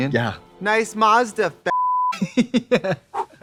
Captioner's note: beeping; laughing